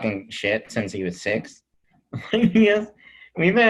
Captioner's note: laughs